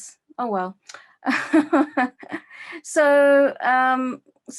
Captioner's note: laughing